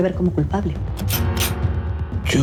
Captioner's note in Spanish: Sonido al enristrar el arma